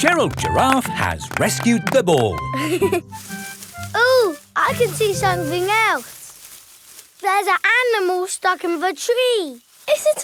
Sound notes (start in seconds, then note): 2.8 leaves rustling